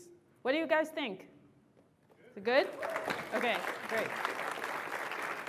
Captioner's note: applause